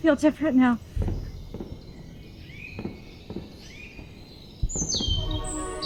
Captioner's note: early morning birds chirp